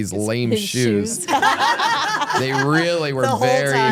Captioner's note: laugh